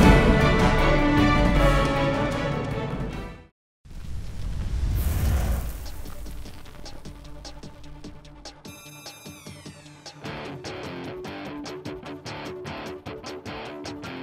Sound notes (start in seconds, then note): 4.0 whoosh; 10.8 rock music